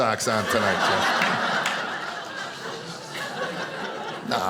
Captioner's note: audience laughing